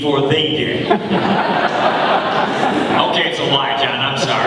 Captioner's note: audience laughing